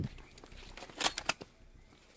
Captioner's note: cocks gun in Spanish